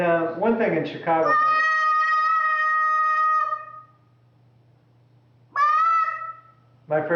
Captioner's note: sound of child playing with toys